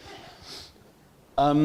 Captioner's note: chuckle